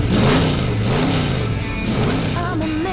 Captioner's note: revving engine